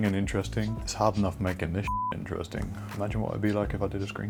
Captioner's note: beep